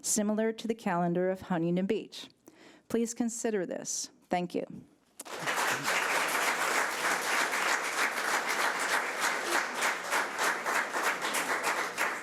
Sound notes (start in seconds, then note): 5.2 audience applause